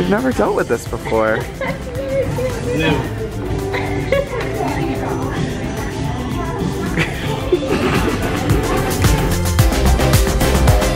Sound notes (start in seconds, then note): 3.8 laughter; 8.2 upbeat music